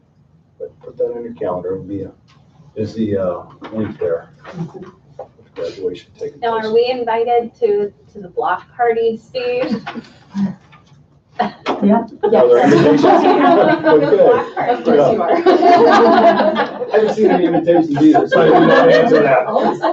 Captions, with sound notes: But put that on your calendar. It'll be a busy point there with graduation taking place. - Now are we invited to the block party, Steve? - Yep. (laughing) (laughing loudly)